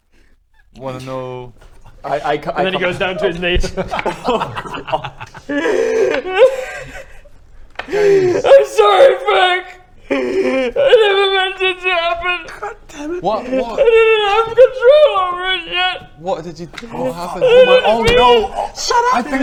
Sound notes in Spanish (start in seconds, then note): 5.7 llanto desgarrador; 8.4 entre gemidos; 14.0 Dirk, llorando